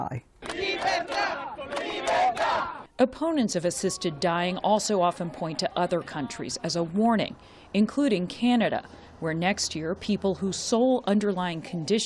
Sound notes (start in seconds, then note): 3.7 chanting